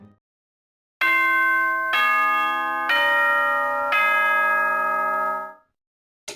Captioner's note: ding, Dong... Dong, Ding